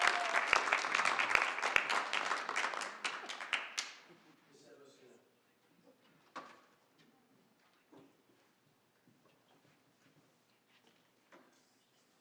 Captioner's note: applause